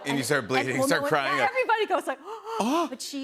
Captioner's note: gasps